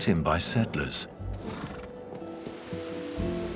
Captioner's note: horse snorts